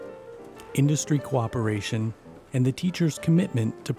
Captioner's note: voiceover